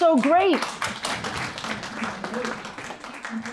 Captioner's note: applause